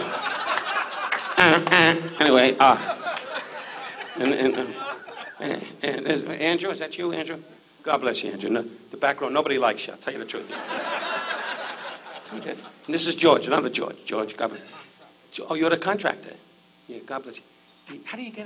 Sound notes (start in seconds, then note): 0.0 audience laughs; 1.7 Don stutters; 4.0 audience laughs; 10.4 audience laughs